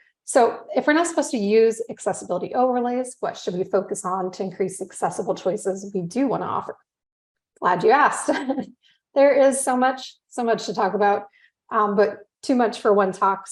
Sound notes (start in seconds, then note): 8.2 chuckles